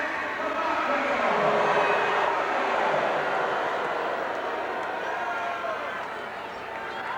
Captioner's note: crowd boos